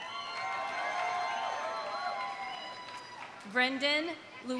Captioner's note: audience cheering; audience applauding